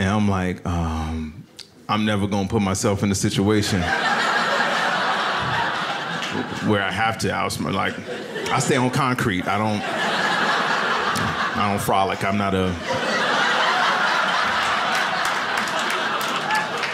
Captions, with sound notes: I'm like, "Um, I'm never gonna put myself "in the situation (audience laughs) "where I have to outsm-- "Like, I stay on concrete, I don't-- (audience laughs) "I don't frolic, I'm not a-- (audience laughs and claps)